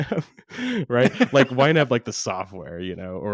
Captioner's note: laughs